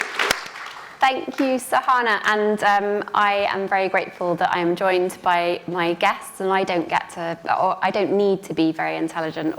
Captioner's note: applause